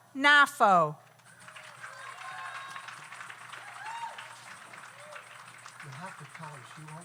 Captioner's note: audience applauds; audience cheers